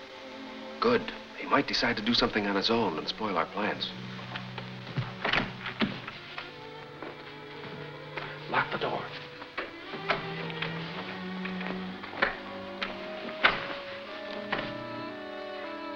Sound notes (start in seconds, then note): 5.9 door opening; 10.0 door locking; 11.6 dramatic music